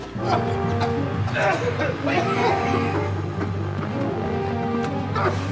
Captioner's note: coughing; dramatic music